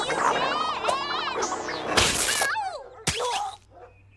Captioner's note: fabric tears; Milo grunts